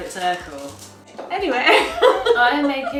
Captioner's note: laughs